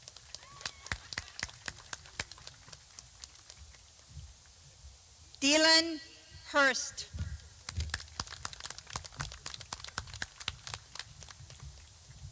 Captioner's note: clapping